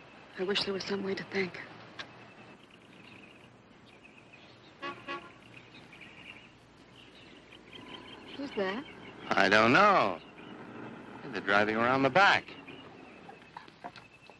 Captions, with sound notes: I wish there was some way to thank her. [Horn honking] - Who's that? - I don't know. And they're driving around the back.